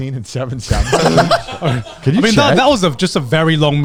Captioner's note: everyone laughs